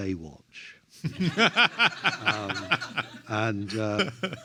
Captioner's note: everyone laughs